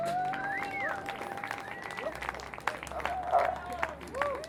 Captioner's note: audience claps